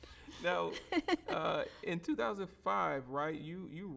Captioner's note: both laughing